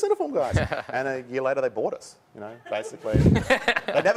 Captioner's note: laughter